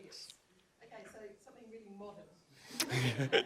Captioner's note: laughter